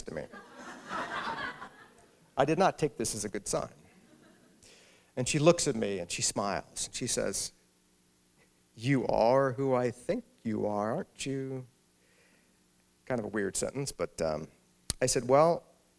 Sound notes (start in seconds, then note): 0.2 laughter; 7.6 playfully